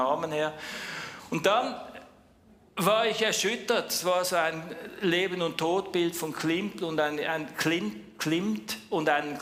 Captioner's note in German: japst